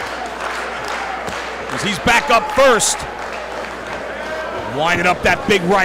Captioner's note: applause